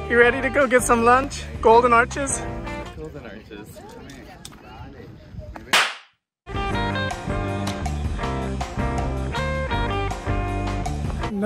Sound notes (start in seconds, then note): 5.7 logo bangs; 6.5 upbeat music continues